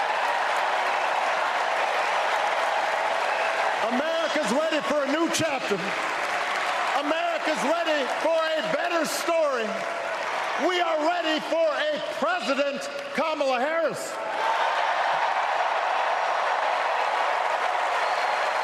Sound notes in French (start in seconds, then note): 13.9 applause